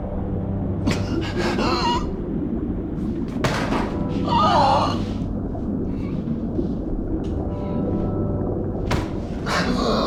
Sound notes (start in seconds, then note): 0.0 tense music; 0.0 water gurgling; 1.9 Rico wheezing